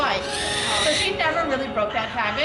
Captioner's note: owl squawks